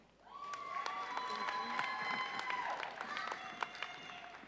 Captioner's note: audience cheering